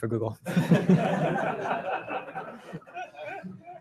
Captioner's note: laughter